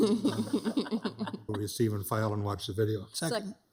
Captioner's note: laugh